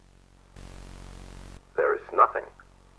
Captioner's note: Static